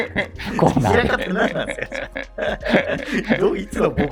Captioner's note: laughing